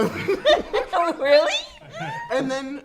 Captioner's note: all laugh